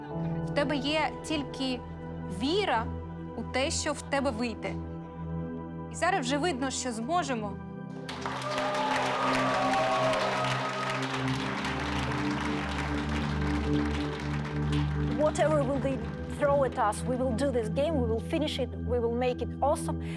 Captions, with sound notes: You only have faith in what you can do. And now we see that we can achieve it. [applause] Whatever will be thrown at us, we will do this game. We will finish it, we will make it awesome…